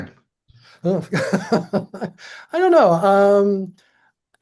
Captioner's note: laughs